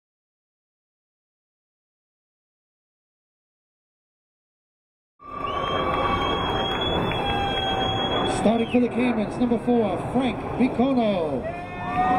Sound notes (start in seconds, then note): 5.2 audience applauding; 5.2 audience cheering